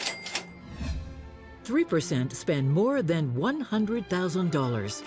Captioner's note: cash register jingling